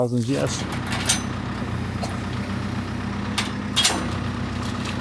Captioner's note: vehicle running